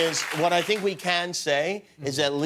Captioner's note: cheers and applause